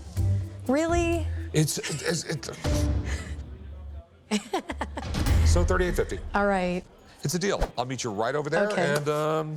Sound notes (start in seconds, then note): 4.3 laughs